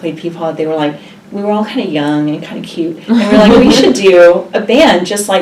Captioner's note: laugh